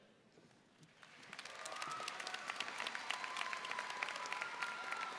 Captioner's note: audience applauding